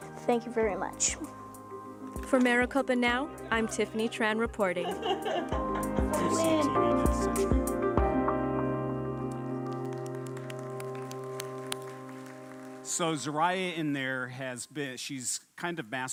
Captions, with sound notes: THANK YOU VERY MUCH. FOR MARICOPA NOW, I'M TIFFANY TRAN REPORTING. I WIN! (APPLAUDING) SO ZORAYA IN THERE HAS BEEN -- SHE'S KIND